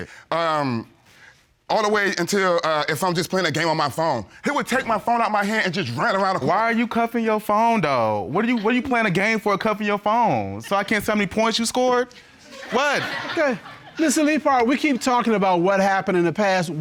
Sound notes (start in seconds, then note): 12.4 audience laughs